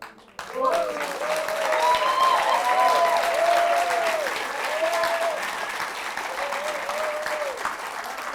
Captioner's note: applause